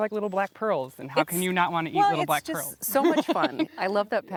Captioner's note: laughing